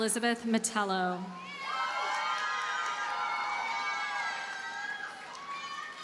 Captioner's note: audience cheers and applauds